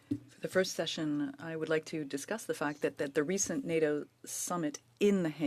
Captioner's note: speaking French